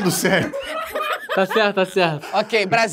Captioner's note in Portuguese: risadas